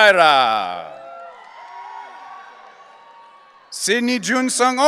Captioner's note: audience cheering